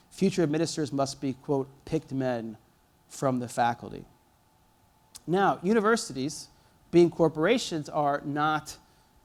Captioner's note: none